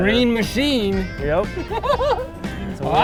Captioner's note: laughter